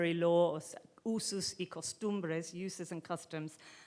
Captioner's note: speaking in foreign language